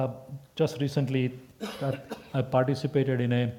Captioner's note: cough